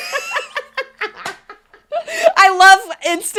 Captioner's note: both laugh